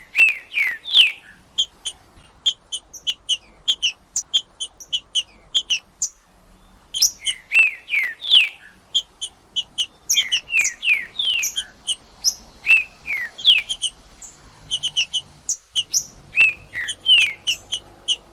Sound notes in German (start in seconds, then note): 0.0 trinca ferro cantando; 5.3 trinca ferro cantando; 7.3 trinca ferro cantando; 9.3 trinca ferro cantando; 11.3 trinca ferro cantando; 13.3 trinca ferro cantando